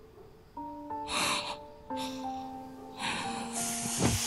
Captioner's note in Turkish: Hızla Nefes Alıyor